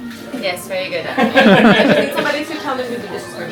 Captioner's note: laughs